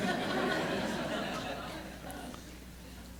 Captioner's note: laughter